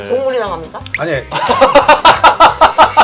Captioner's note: sound effect of being deep in thought